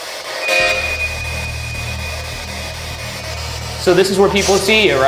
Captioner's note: spirit Box buzzing